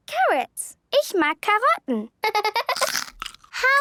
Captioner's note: laughter